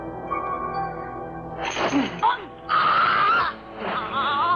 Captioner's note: gurgling